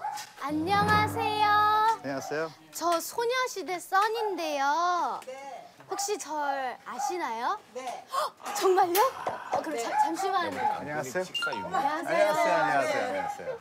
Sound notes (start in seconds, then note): 2.6 kind voice